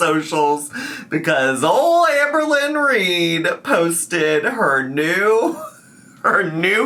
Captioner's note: laughs